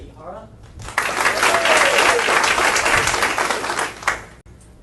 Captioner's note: audience applauding